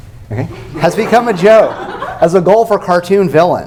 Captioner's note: laughter